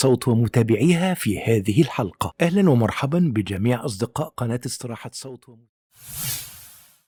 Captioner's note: arabic VO